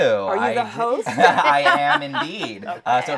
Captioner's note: laughs